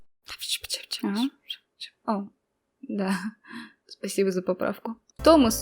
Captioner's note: whisper